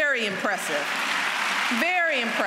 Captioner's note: applause